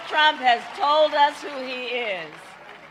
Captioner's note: applause